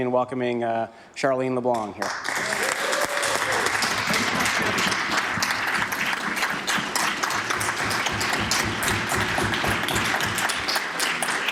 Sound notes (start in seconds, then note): 7.1 applause